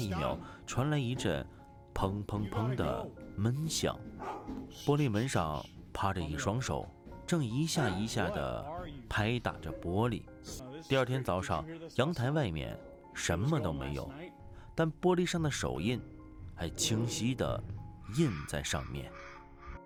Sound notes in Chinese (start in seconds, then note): 4.0 「砰、砰、砰」